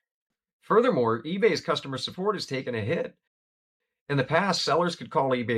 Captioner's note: voiceover